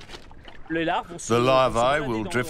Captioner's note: speaking in foreign language